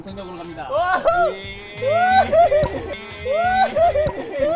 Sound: sound effect of booster

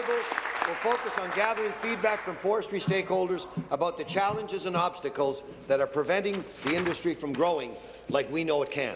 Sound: applause

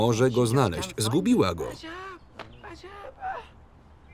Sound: foreign language

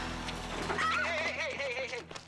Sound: shrieks

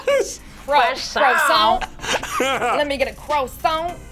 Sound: laughs; laughs

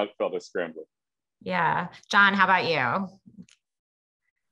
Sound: laugh

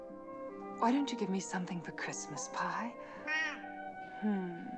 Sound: meows

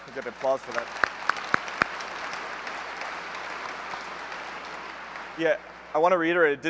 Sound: applause

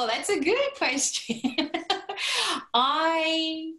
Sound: laughter

